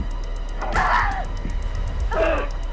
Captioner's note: Tina gasps; strike cracking; assailant groaning